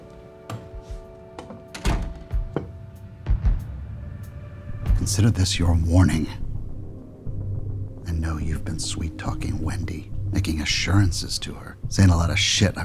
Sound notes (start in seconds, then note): 1.3 door clicks shut